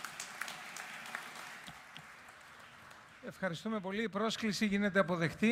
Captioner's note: applause